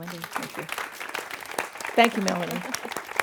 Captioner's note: audience applauding